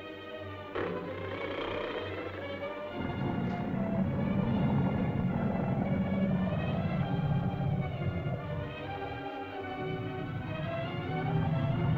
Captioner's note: suspenseful music; lizard growls